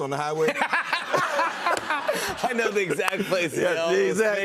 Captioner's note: laughter